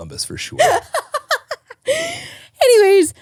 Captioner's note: laughing